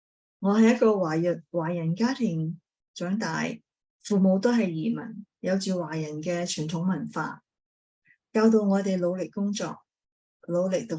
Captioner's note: speaking chinese